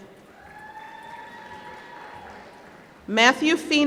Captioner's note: applause